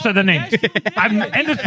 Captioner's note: laughing